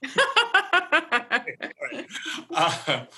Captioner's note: laughter